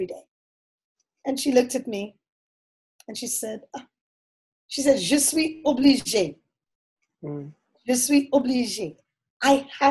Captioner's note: foreign Language 00:59:30